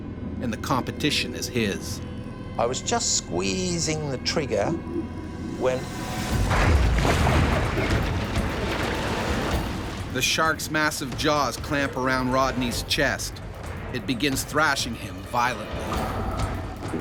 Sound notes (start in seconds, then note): 6.4 thump; 10.2 voiceover